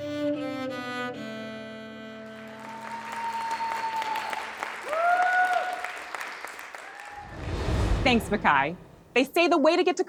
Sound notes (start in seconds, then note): 0.0 violin music; 2.2 audience applauds and cheers